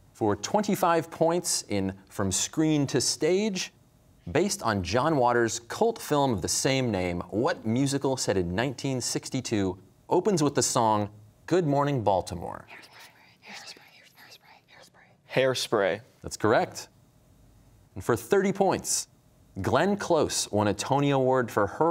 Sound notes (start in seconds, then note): 12.4 whispering